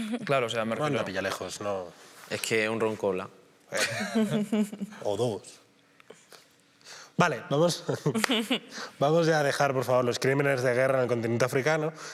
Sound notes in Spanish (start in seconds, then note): 3.8 todos ríen